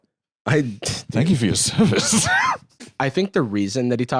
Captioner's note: laughs